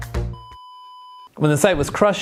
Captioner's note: beeping